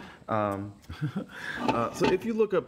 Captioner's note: laughing